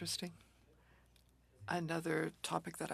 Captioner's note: speaking French